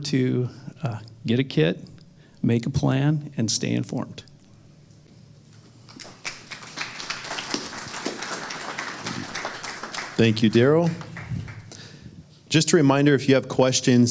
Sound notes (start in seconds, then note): 5.9 applause